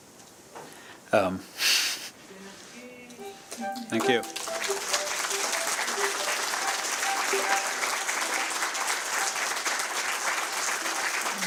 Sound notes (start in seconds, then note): 3.8 applause